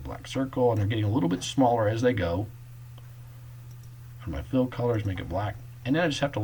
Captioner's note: click